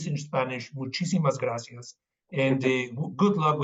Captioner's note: speaking Spanish